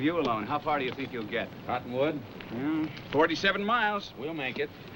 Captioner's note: hooves clopping